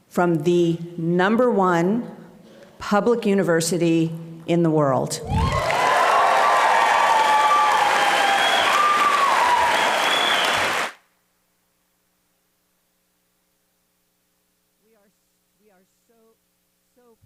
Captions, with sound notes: from the number one public university in the world. (audience applauding and cheering)